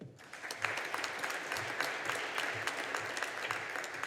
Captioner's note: audience applauding